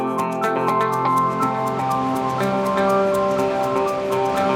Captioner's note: water gushing